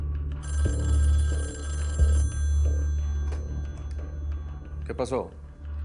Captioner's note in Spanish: Suena el teléfono